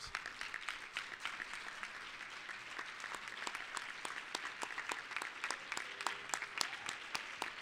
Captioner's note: applause